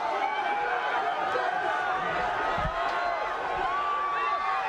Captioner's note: crowd cheers